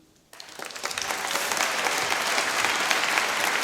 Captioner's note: applause